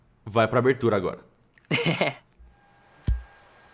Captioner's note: giggles